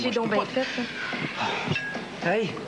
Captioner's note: soupir